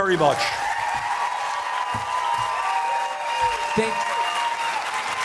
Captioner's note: applause, cheers, chanting "Bernie, Bernie, Bernie!"